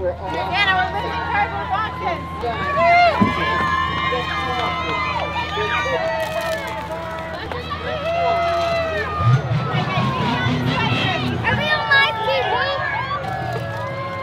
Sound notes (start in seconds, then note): 3.3 cheering crowd